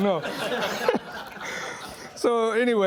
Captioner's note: laughing